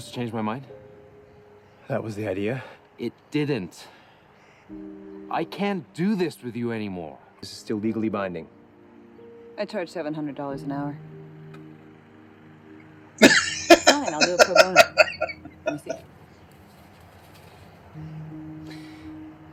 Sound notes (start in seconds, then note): 13.2 laughing